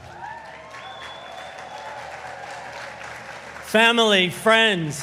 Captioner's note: audience applauding